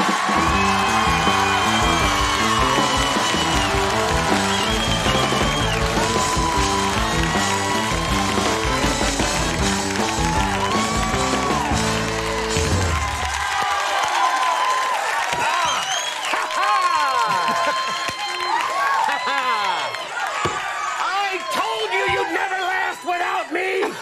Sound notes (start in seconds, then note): 0.1 audience applause; 0.1 upbeat music; 5.6 audience cheering